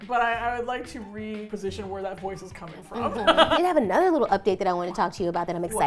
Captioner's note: laughs